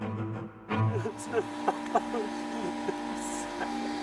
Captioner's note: cries